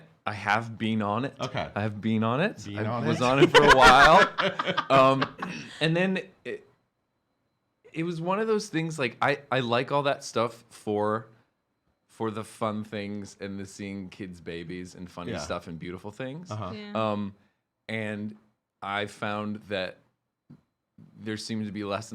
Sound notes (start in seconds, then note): 4.4 laughing